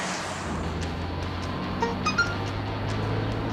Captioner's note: text alert